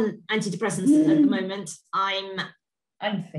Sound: groans

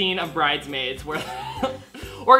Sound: laughs

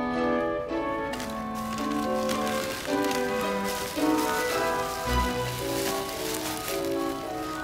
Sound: paper crinkling

